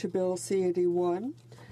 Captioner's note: speaking French